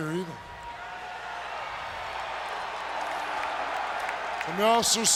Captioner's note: crowd cheering